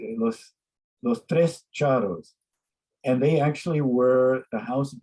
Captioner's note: speaks in a foreign language